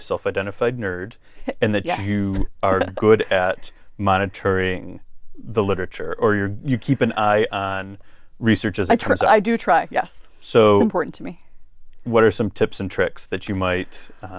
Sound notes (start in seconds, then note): 1.6 laugh